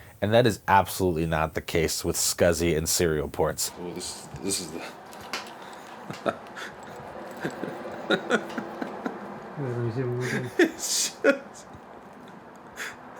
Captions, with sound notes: And that is absolutely not the case with SCSI and serial ports. Oh, this is the... [laughter] It’s just...